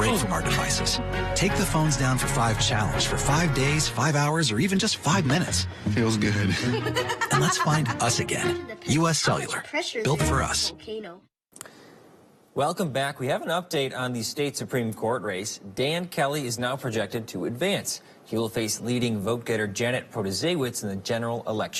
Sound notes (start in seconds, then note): 6.3 laughs